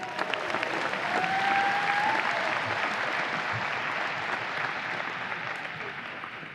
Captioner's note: audience applause